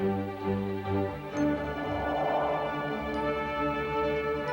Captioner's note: exhaling